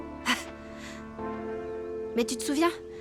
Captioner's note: chuckling